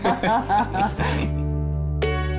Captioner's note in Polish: śmiech